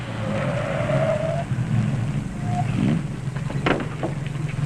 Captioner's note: tires squealing